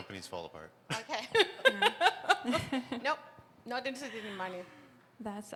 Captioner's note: laughter